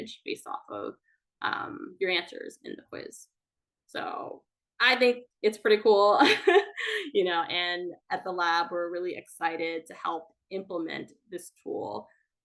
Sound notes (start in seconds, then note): 6.3 laughs